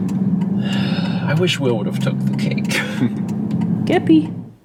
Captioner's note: sigh